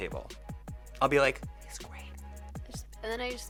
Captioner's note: whispers